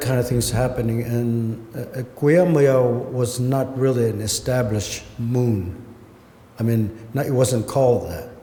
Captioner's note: non-english